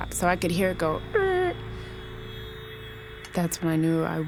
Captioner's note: screech